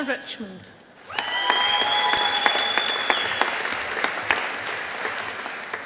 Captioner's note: audience applauding